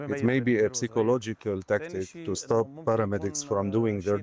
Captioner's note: speaking alternate language